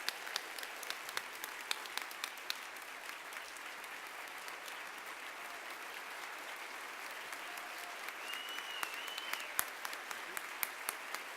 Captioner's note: applause